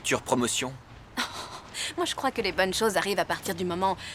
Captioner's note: scoffs